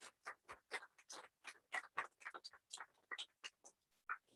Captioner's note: applause